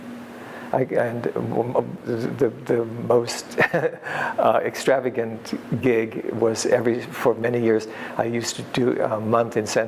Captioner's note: laughs